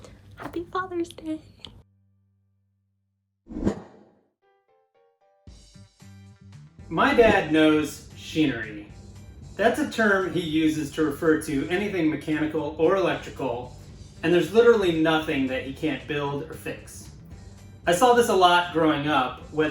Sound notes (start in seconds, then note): 3.5 air whooshing; 4.9 soft pop music